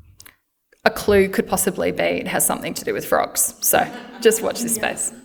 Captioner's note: laughter